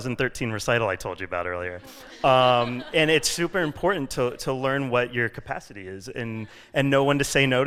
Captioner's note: laughter